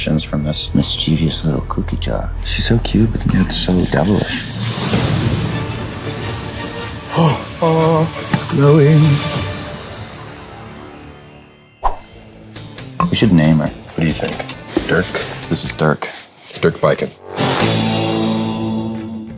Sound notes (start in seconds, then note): 5.0 epic music; 7.2 gasps; 9.8 wind chimes; 11.8 quick swoosh